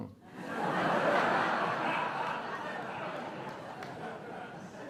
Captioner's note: audience laughing